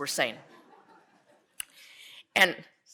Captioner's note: audience laughs